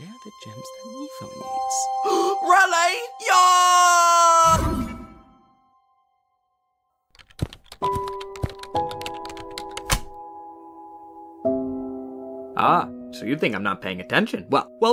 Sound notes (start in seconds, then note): 0.3 mumbling; 2.0 gasp; 7.1 keyboard typing